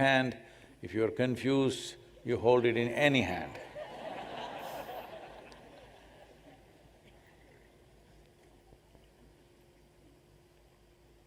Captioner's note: laughter